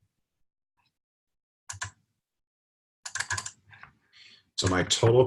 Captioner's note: typing Sounds